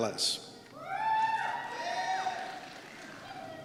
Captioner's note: cheers